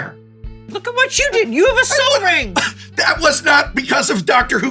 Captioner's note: scoffs